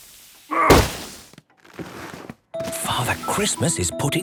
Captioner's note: grunting; narrator whispering